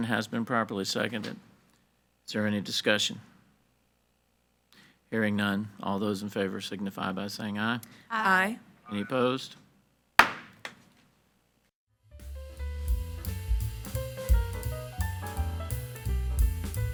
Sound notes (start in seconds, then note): 10.2 gavel bangs; 12.1 gentle music